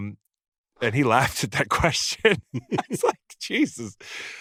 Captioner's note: laughs